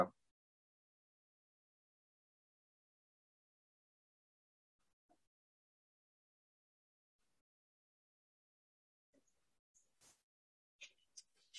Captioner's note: silence